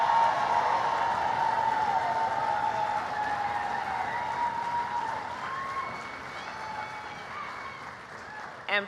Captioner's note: applause